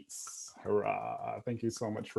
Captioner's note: applauding